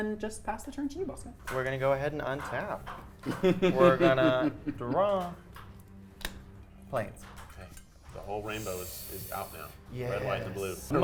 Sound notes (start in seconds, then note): 3.5 chuckling